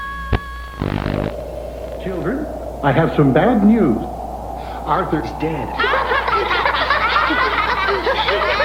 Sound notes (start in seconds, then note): 5.7 class laughing